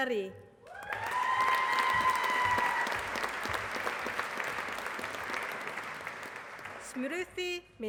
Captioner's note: applause